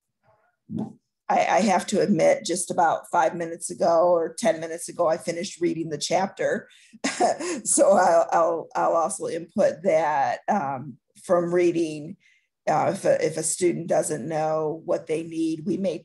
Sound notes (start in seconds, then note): 7.0 laughter